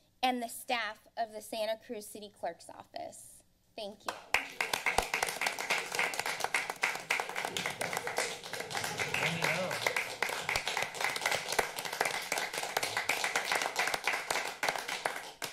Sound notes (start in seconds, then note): 4.8 members applauding